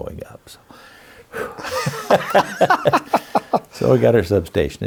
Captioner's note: laughs